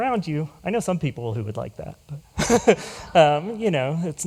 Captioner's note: laughs